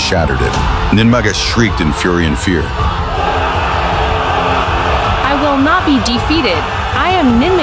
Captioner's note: screaming